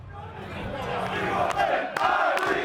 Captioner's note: crowd; crowd chatter